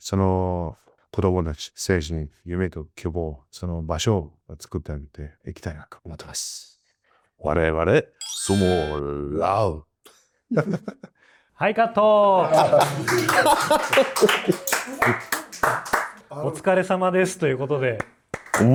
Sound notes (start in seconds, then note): 12.5 applause